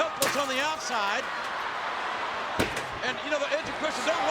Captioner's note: audience cheering